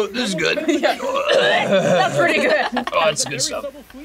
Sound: gags

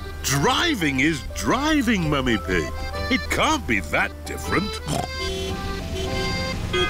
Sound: snorts; driver yells in italian; horns honking

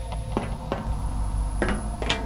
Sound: footsteps; more footsteps

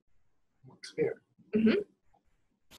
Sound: voiceover

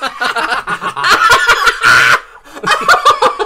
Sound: unhinged Laughter

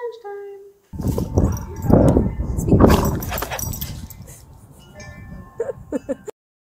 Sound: singing; laughs

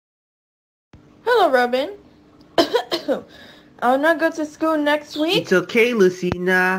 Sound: coughing Sounds

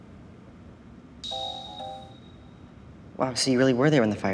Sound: happy software noise

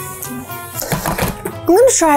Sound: kettle clatters

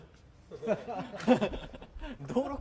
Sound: laughing

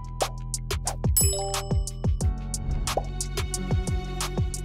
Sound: text chimes

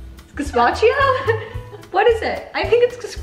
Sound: laughing

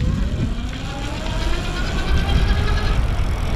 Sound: motor running

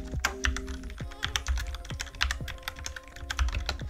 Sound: keyboard clicking

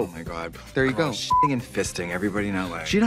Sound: beep

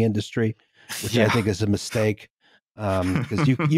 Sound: laughter

